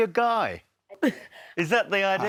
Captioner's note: giggles